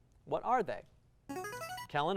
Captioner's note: buzzer